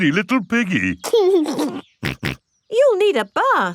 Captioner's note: giggles and snorts